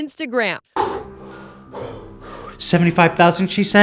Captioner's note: panting